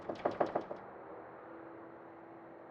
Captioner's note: knocking